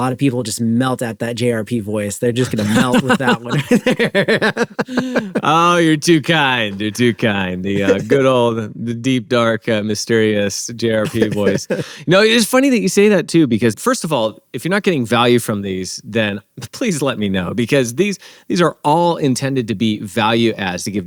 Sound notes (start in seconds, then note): 2.5 both laughing